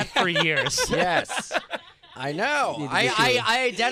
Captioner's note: laughter